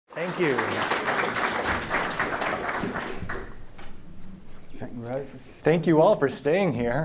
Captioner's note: applause